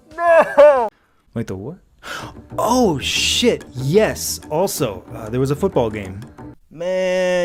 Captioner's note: gasp